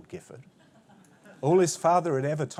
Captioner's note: laughter